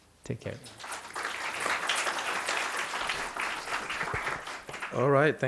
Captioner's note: applause